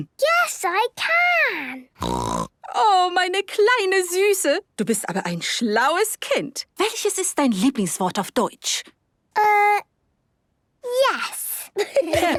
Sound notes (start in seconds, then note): 2.0 snorting; 2.8 speaking German; 11.7 laughter